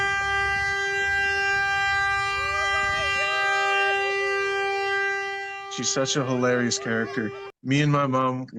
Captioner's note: horn